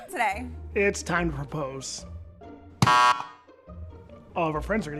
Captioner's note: button buzzes